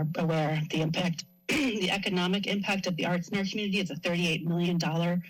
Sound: clears throat

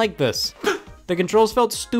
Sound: gasp

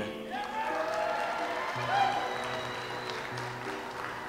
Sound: audience applauds

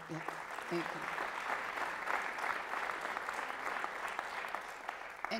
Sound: applause

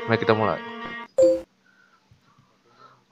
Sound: beep

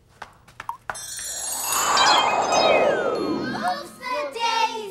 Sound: wind and chimes

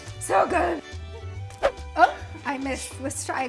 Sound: air whooshes

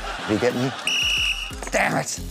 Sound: whistle blows

